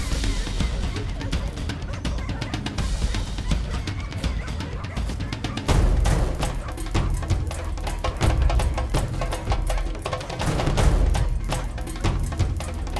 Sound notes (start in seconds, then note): 5.5 intense music; 5.7 dogs barking